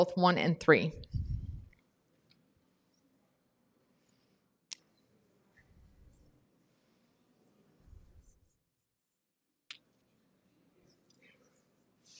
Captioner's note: pause